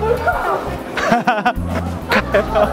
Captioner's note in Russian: смеётся